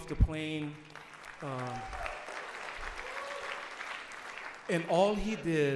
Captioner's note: audience applauds